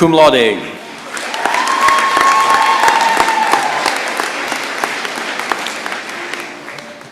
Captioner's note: cheering and applause